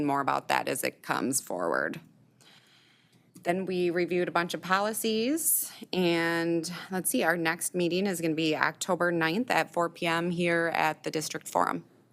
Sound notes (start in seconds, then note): none